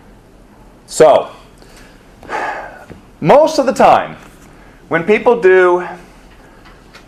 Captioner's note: sighs